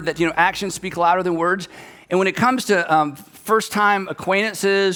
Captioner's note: none